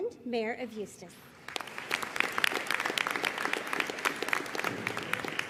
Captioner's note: audience applauding